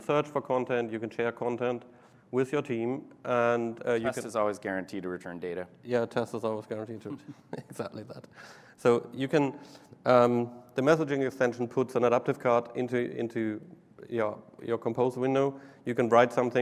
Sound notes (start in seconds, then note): 7.0 laughter